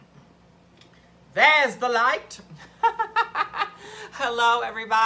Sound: laughs

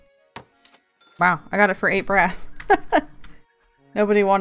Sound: laughs

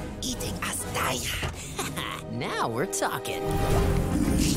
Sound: chuckles

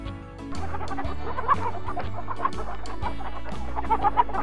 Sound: chickens clucking

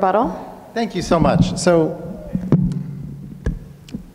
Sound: thumps mic

